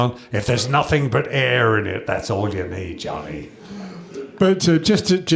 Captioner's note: chuckles